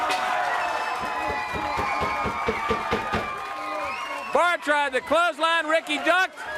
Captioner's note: crowd cheering